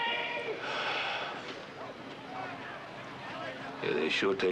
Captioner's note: sighs